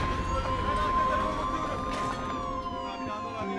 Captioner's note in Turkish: Siren sesleri